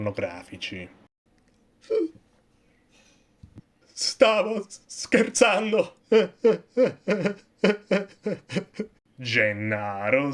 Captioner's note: gulp